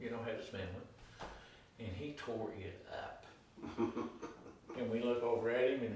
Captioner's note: chuckling